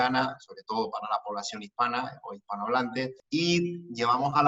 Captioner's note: Spanish speaking